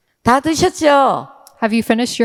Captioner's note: speaking in foreign language